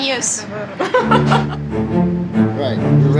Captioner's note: laughs